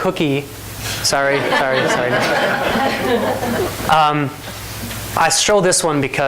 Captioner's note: laughing